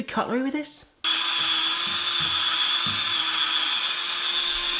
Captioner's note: machine whirring